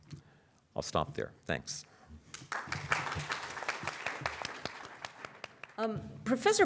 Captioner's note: applause